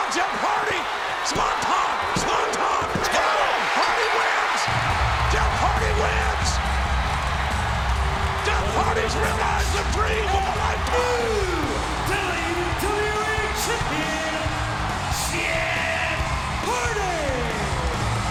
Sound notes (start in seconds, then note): 3.9 bell rings; 7.0 audience cheers and claps; 7.0 upbeat music